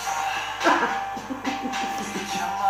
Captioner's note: hysterical laughing, part 3